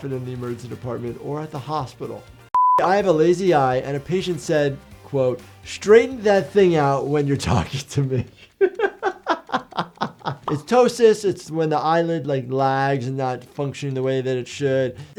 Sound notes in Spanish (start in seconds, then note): 8.5 risas